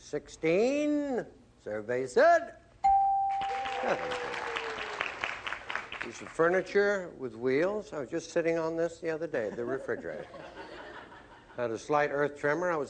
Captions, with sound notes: 16. Survey said-- [ding] --17. [applause] Piece of furniture with wheels. I was just sitting on this the other day-- the refrigerator. [laughter] Had a slight Earth tremor.